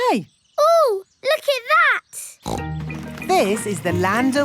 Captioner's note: snorts